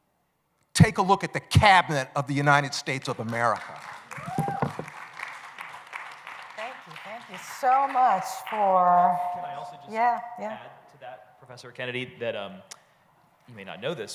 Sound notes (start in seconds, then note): 2.5 applause